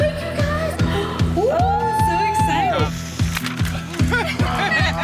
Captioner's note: gasping; all laughing